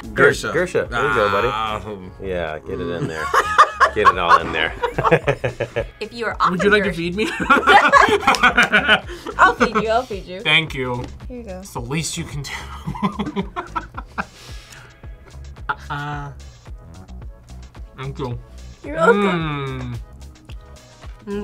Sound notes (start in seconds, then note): 2.9 laughs; 2.9 both laugh; 7.2 both laugh; 12.8 laughs